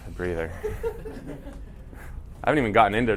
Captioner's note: laughter